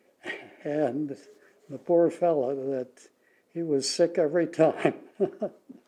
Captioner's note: laughs; laughs